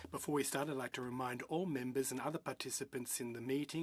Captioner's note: speaking in French